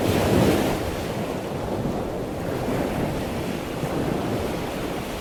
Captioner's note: waves rumbling and splashing